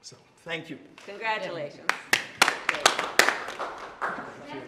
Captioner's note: applause